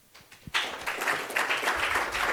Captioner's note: applause